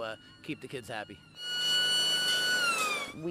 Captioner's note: siren wailing